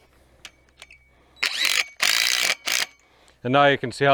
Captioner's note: drill buzzes